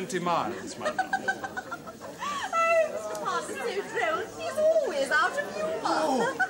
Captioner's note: giggles